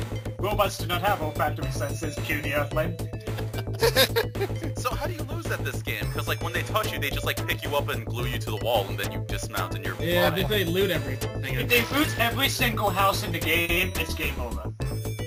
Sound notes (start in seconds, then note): 3.3 gulping giggles